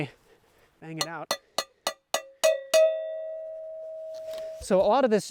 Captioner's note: clank clank clank